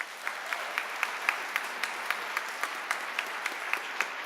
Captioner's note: applause